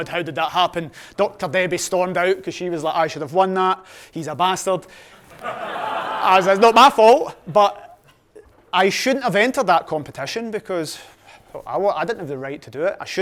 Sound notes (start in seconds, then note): 5.2 audience laughing